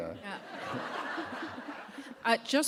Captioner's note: laughter